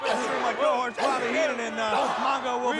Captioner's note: crowd chanting drowns out sound